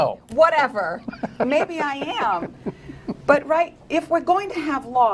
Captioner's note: laughter